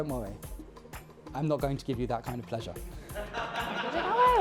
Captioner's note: laughter